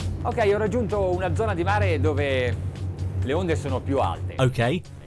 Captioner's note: funky music; man speaks in foreign language